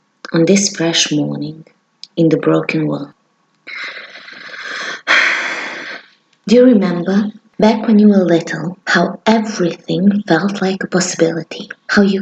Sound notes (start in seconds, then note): 3.8 deep breath